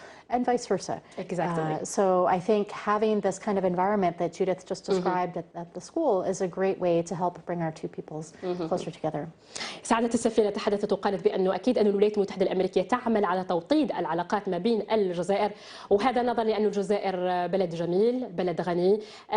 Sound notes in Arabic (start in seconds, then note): 0.2 تتحدث الإنجليزية